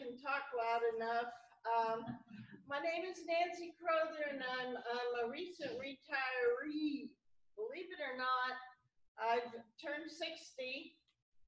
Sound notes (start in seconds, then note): none